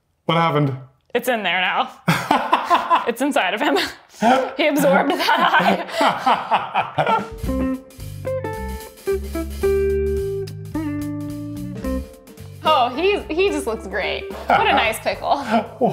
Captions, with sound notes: What happened? It's in there now. (laughing) It's inside of him. He absorbed that eye. (upbeat music) Oh, he, he just looks great. What a nice pickle.